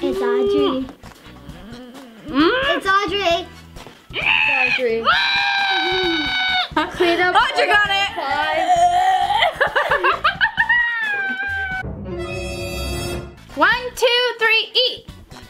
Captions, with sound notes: - It's Audrey. It's Audrey. (squeals) (yells) - Audrey got it. (fakes vomiting) (laughs) (ominous music) - One, two, three, eat!